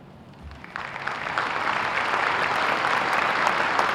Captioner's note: applause